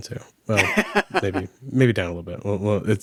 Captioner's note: laughs